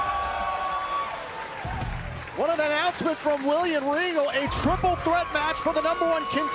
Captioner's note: cheers and applause